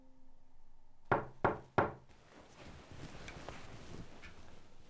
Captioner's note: door knocking